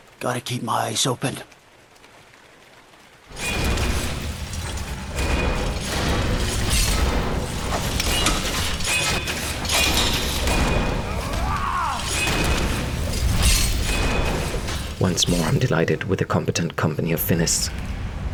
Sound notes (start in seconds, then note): 3.3 cacophany of metal sounds; 8.1 kachunk chunk!; 13.3 woozhs!